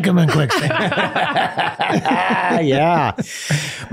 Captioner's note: everyone laughing